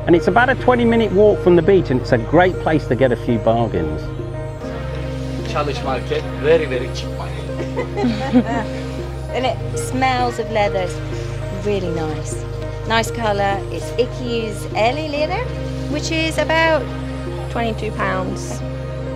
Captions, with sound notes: And it's about a 20 minute walk from the beach and it's a great place to get a few bargains. (man speaks foreign language) - And it smells of leathers, really nice, nice color, (speaks foreign language) which is about 22 pounds.